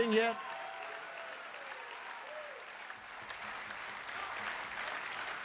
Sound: congregation applauding

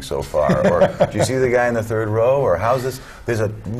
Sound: laughter

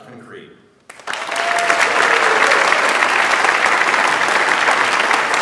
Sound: audience applauds

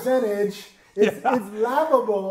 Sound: laughs

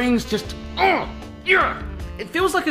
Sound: grunting

